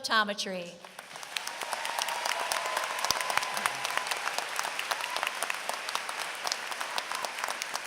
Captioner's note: applause